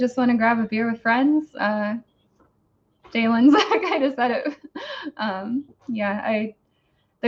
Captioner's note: laughs